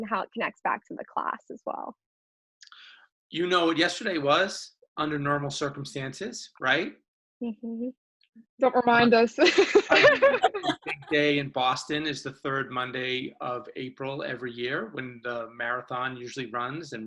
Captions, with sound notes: and how it connects back to the class as well. - You know, yesterday was under normal circumstances right? - Don't remind us. (laughs) - A big day in Boston is the third Monday of April every year when the marathon usually runs